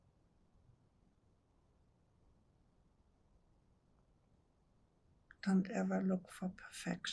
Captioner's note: pauses 6 seconds